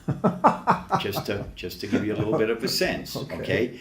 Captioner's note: laughs